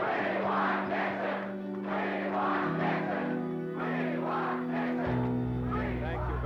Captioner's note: chanting continues